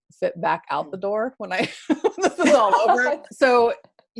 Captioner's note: laugh